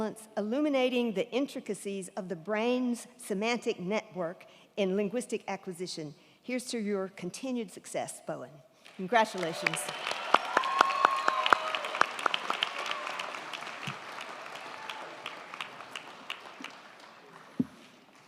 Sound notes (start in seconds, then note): 8.9 crowd clapping; 9.2 crowd cheering